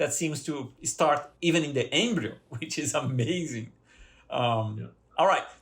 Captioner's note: laughter